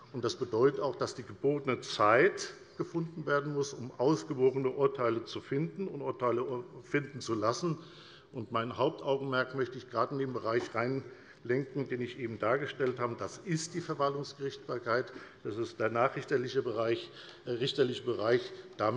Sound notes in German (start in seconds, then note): none